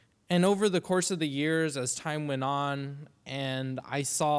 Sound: none

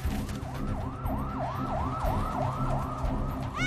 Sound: SIRENS WAlLlNG IN DISTANCE

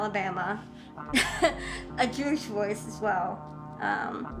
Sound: laughing

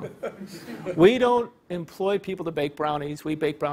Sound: laugh

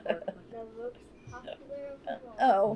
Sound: laughs

